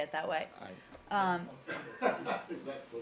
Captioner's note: laughter